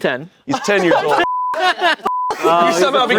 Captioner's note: beep